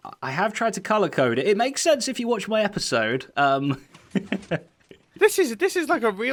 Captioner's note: chuckles